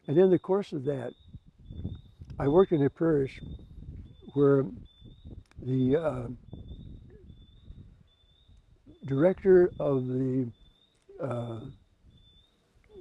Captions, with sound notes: And in the course of that, I worked in a parish where the (bird chirping) director of the,